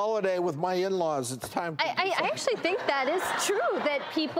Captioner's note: laughing